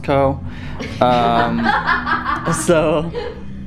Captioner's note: laugh